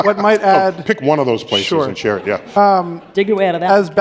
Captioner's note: laughter